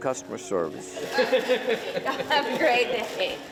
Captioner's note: customers laughing